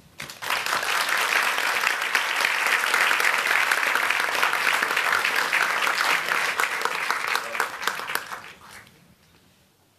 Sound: applause

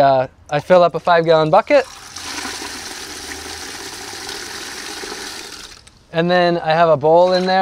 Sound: water pouring

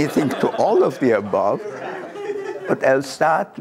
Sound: laughter

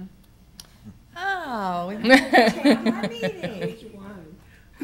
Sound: laughing

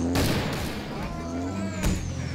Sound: Agent Lin screams

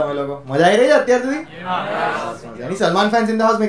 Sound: audience Response

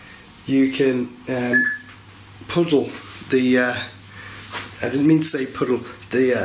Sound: beeping

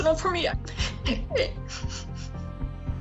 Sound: hitching sobs

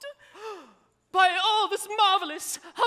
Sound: Frederic gasps

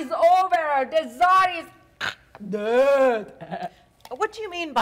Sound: softly chuckles

